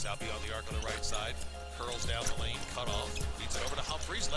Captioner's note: cheering